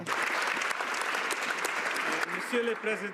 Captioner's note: some Applause